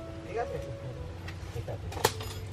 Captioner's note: metal drop sound